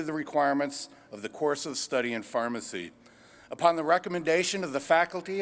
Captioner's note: none